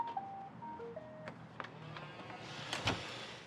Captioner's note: mechanical whirring